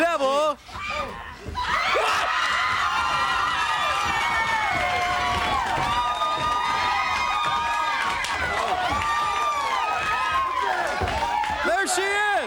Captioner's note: crowd cheering